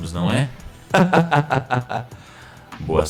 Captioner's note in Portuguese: Risada sarcástica